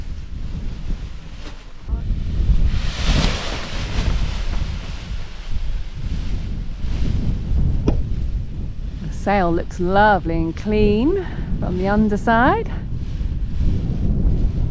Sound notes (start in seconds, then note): 2.1 paraglider crinkling; 7.3 wind blows